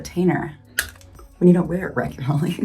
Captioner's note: retainer clicks